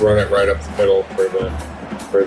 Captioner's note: crowd Noises